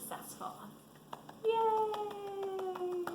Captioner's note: claps